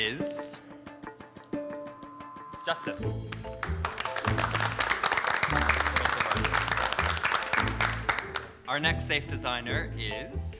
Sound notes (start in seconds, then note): 0.1 upbeat suspense music; 3.2 group applauding